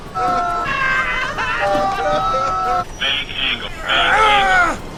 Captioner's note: people scream